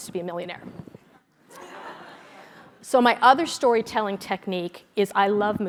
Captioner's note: laugh